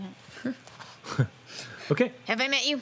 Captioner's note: laughs